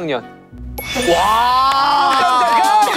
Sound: ding dong

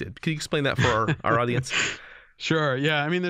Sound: chuckle

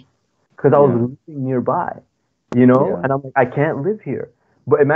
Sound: speaking foreign language

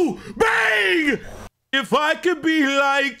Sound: group yelling bang

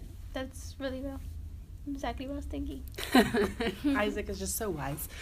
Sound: laughs

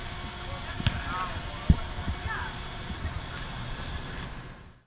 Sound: ball smacking

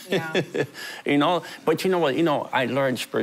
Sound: laughing

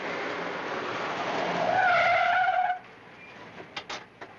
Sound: tires squealing

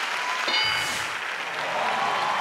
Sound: audience applauding; clunking; audience cheering

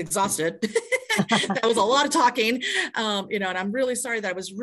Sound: laughs

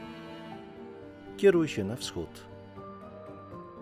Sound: in Polish

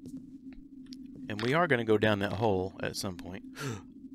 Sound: gasps

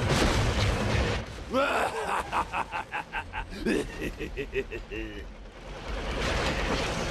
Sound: evil laughter

